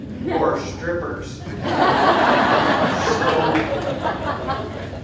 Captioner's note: audience laughing